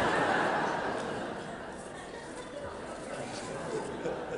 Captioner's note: audience laughing